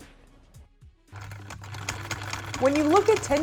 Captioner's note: sewing machine hums